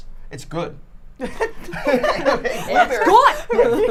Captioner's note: people laughing